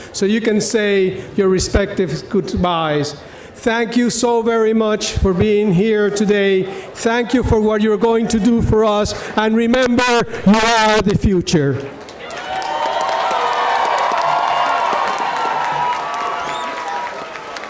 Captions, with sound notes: so you can say your respective goodbyes. Thank you so very much for being here today. Thank you for what you're going to do for us and remember, you are the future. (audience applauding)